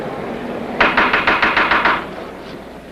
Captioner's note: gravel knocking